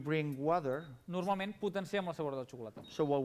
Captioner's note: non-english speech